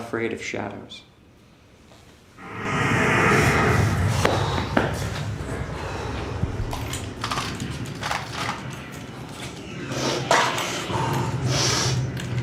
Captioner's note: sounds of war